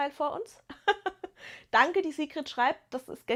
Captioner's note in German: gelächter